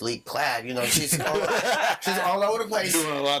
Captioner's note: all laughing